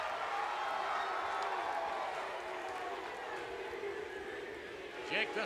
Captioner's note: spectators cheering